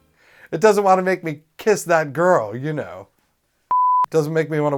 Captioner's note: beep